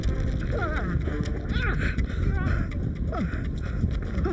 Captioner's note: Larry groaning